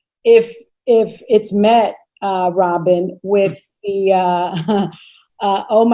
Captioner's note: chuckles